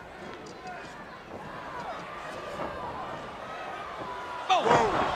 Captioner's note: crowd chatter